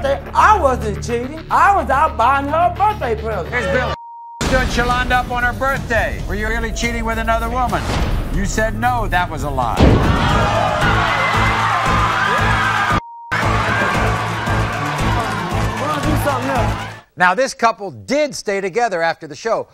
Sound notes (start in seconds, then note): 11.1 audience screaming; 11.1 upbeat music